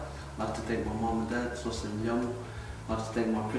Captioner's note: peaking foreign langaguge